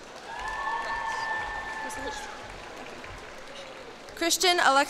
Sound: cheers and applause

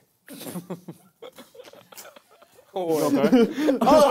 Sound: laughter

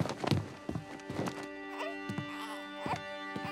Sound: cooing

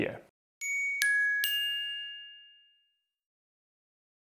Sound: chiming

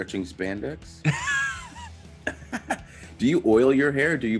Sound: laugh

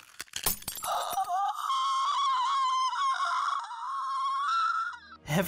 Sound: intangible traumatic whimpering

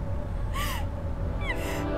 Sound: Googly sobbing

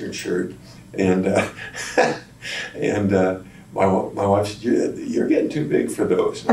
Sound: laughs

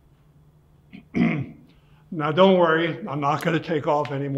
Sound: clears throat

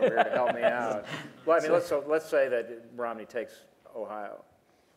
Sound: laughter

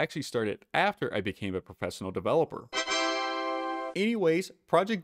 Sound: windows success sound

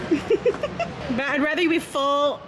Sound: giggles

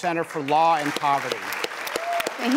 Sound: applause

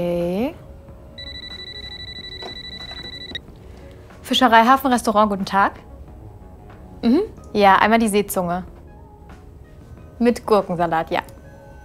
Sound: phone rings

